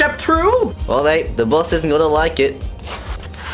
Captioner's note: awful Voice